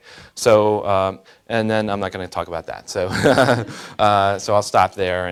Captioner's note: laughing